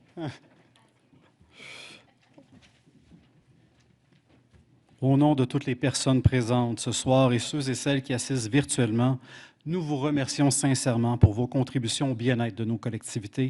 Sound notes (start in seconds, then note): 0.4 laughter; 7.3 speaking French